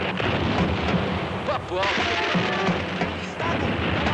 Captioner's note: explosions booming